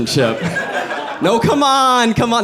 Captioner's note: audience laughs